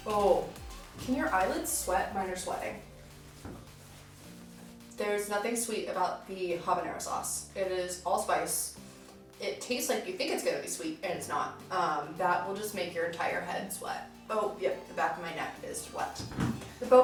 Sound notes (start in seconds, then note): none